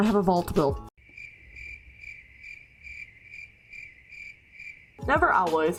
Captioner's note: cricket noises